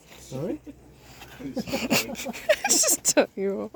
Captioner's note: laughs